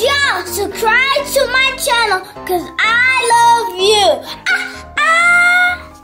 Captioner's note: yells